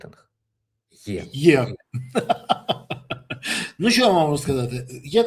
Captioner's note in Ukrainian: сміх